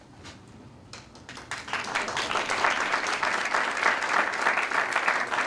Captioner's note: applause